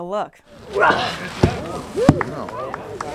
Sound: grunting; crowd clapping

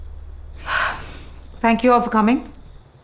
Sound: exhales

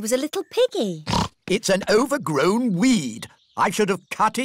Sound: snorts

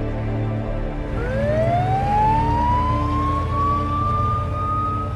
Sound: siren wailing

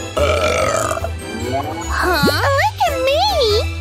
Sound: sighs

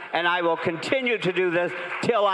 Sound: crowd cheering

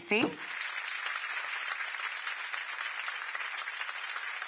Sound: audience applauding

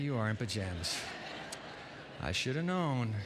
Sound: laughter

